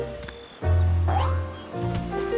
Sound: jump sound

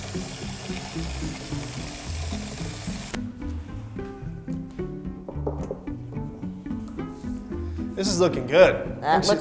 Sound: water running and music

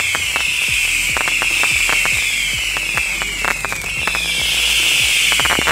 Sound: fireworks crackling; fireworks whistling; fireworks crackling; fireworks whistling

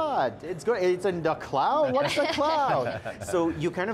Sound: laughing

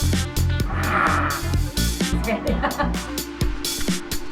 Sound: laugh

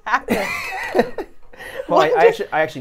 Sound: laugh

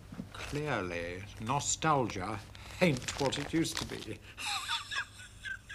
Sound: laughs

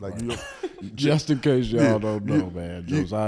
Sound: laughs

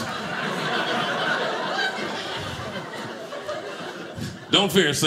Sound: audience laughing

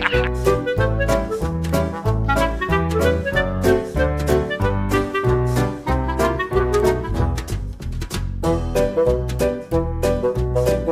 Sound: snicker

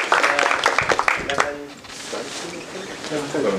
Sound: background chatter

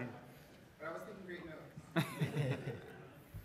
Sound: laughs

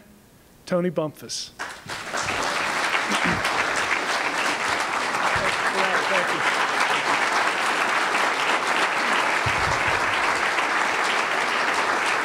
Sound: applause

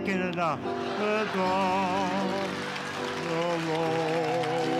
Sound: audience laughing and applauding

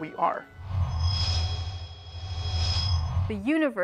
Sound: sound Effects

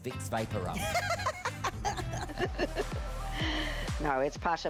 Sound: Myf laughs

